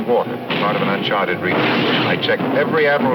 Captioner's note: cannon firing